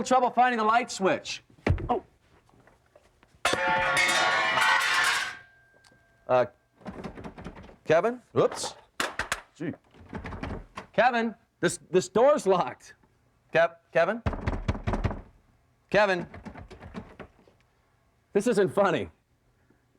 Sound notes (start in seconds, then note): 3.4 metal clanging; 14.2 knocking on door